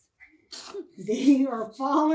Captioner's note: boy laughs